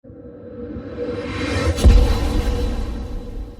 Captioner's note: logo whooshing